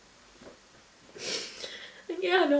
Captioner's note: sniffles, inhales shakily